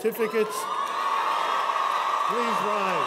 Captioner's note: cheers and applause